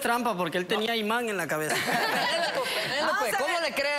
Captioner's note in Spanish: Risas